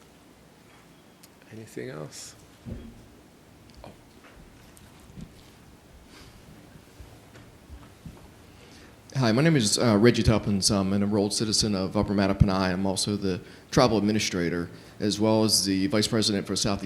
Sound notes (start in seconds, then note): none